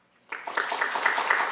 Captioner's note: applause